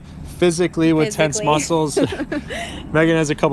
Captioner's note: laughs